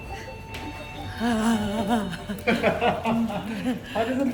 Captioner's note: laughter